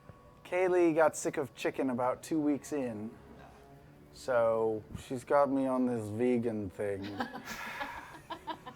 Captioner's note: sighs